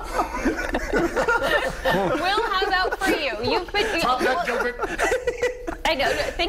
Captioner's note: laughter